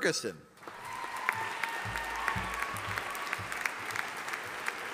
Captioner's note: audience applauding